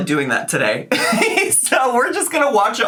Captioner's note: laughs